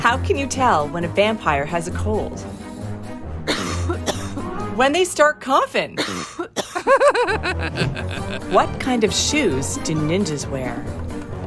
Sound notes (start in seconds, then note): 5.9 coughing; 6.8 laughing